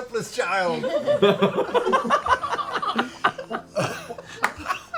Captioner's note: laughter